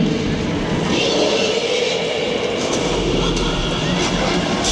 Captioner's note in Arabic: زئير الديناصورات